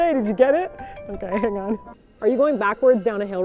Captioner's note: phone ringing